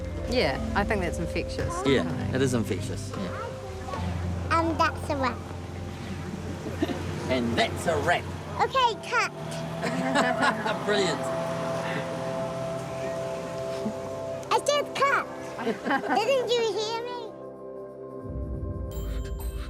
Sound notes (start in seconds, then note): 9.7 laughs